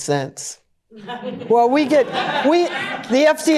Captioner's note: laughter